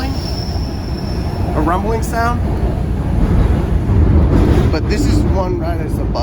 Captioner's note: train rumbles